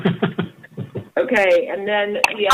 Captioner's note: laughter